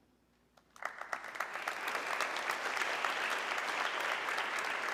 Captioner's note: audience clapping